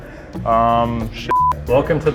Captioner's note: beep